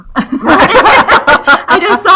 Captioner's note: laugh